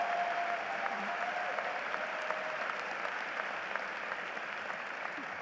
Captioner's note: applause